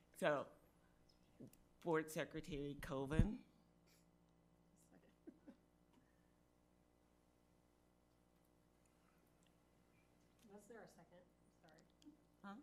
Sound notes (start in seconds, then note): 5.0 speaking faintly